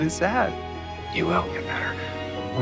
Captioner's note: voiceover